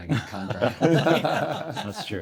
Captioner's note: everyone laughs